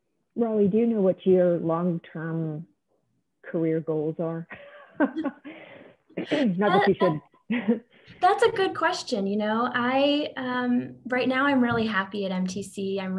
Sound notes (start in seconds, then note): 4.9 laughs